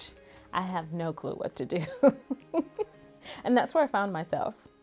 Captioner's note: laughs